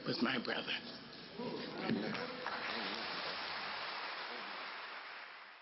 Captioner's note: applause